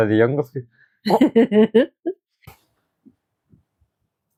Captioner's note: laughter